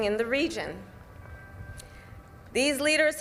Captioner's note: bells begin to chime